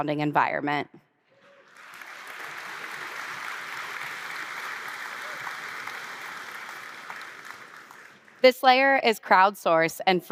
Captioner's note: applause